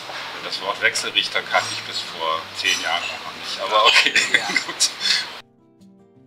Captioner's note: laugh